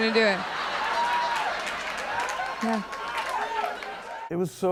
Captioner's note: audience cheering and applauding